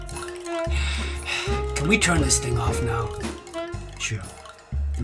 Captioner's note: sighs